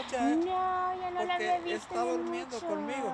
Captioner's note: speaking in Spanish